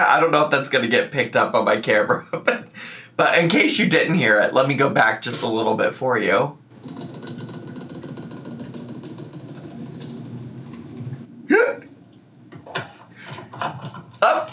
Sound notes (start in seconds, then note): 6.7 liquid gurgling; 11.8 laughs